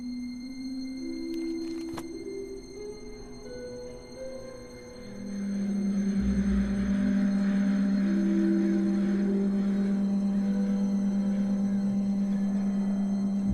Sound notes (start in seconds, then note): 5.8 crows cawing